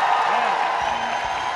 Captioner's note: applause